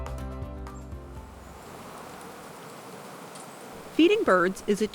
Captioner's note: water rushes